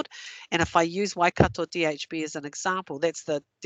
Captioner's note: non-english